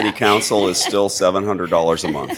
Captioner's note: laughter